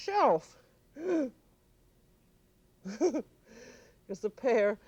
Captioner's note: gasps, chuckles